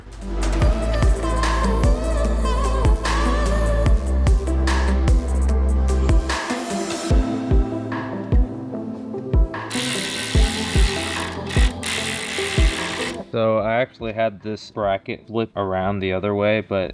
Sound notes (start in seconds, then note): 0.1 upbeat music; 9.7 ratchet whirring